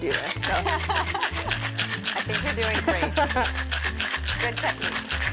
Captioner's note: laughs